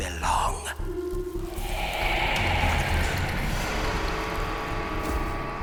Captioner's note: cryptic buzzing; suspense music